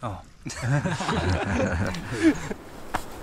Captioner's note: laughs